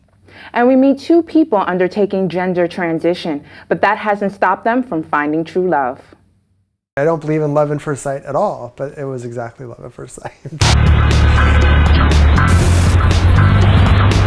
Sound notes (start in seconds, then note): 10.2 chuckles; 10.6 theme Music